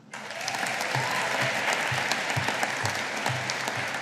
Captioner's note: audience applauding